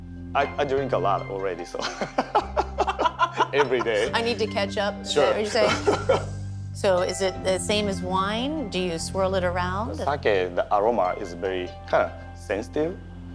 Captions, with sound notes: -I drink a lot already, so... [ Both laugh ] Every day. -I need to catch up. -Sure. Is that what you're saying? -[ Laughs ] -So, is it the same as wine? Do you swirl it around? -With sake, the aroma is very kind of sensitive.